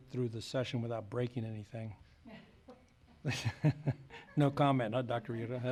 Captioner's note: laughs